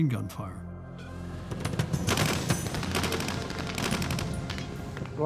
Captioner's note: gunfire